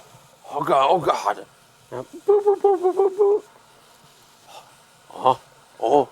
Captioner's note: imitating dial tone; imitating chatting